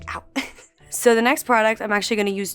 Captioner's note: chuckling